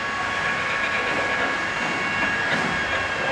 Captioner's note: drilling in the background